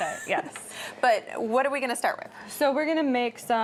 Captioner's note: laughs